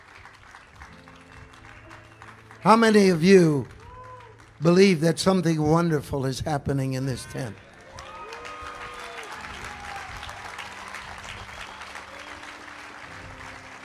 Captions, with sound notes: How many of you believe that something wonderful is happening in this tent? (congregation applauding)